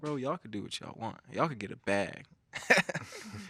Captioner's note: laughing